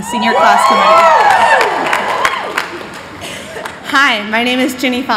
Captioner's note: cheers